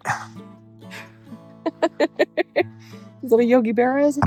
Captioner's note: laughing